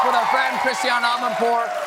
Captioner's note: cheers and applause